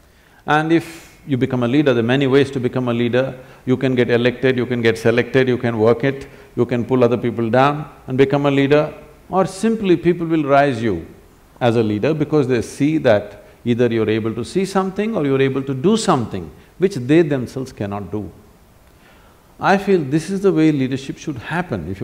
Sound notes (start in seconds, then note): none